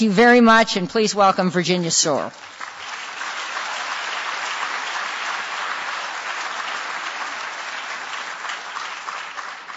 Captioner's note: audience applause